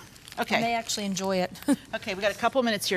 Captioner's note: chuckles